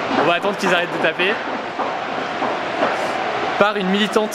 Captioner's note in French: Bruits des spectateurs